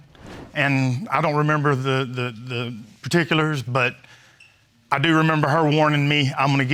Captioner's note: stammering